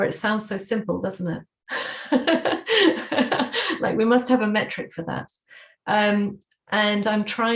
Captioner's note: laughter